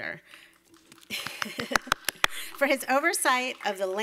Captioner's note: attendees applaud